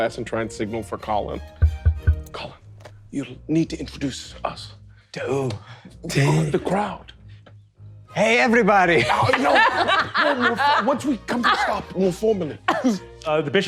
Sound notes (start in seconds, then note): 1.6 glass thudding; 6.1 laughing; 9.0 all laughing